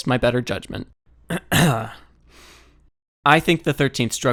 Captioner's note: clears throat